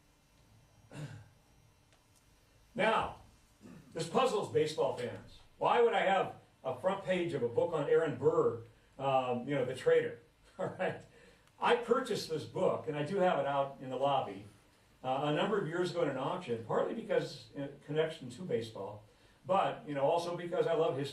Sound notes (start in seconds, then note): 10.3 laughs